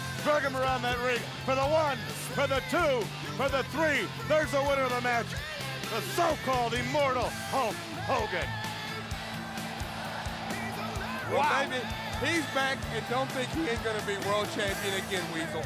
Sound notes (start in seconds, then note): 8.8 crowd cheering